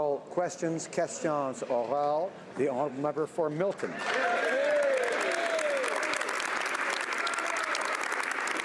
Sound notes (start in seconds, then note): 3.1 speaking French; 7.1 some Applause